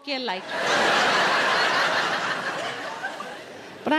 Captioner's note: audience laughing